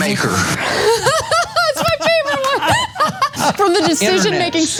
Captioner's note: laugh